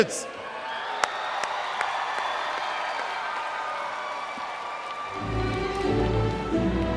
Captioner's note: applause/cheers